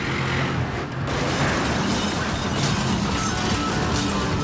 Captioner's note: glass smashes; lively rock music